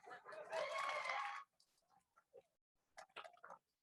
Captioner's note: crowd cheers